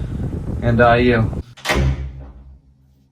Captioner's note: door closing